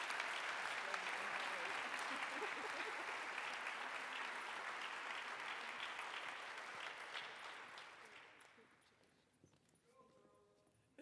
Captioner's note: applause